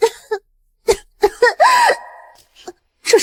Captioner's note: coughs